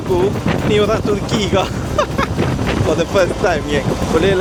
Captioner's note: laugh